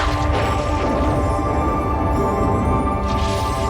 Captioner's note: thunderclap